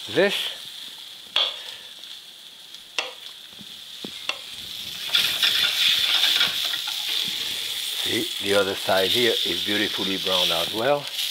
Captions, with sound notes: This. (knife softly chopping) (pan sizzling) See, the other side here is beautifully browned as well.